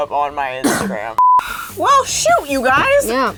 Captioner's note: beep